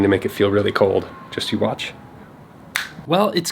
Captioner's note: snap